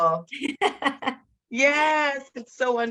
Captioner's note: laughs